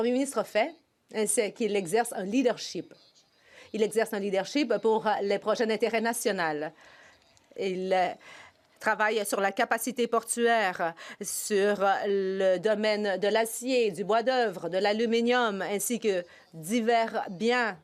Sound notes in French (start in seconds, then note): 3.4 voix de l'interprète